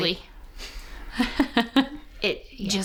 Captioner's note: laughing